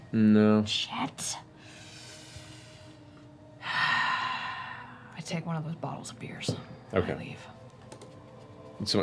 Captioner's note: long sigh